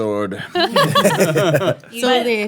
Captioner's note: laughing